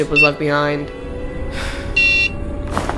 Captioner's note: sigh